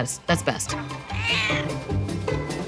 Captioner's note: cat meowing; jaunty music